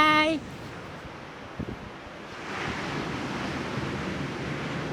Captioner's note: waves lapping